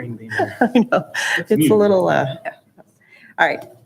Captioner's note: chuckles